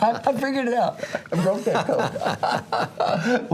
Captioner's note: laugh